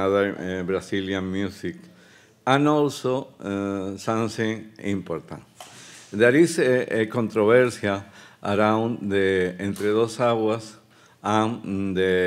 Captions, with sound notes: and another Brazilian music and also something important. There is a, a controversial around the (speaking Spanish)